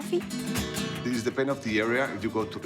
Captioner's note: with Spanish accent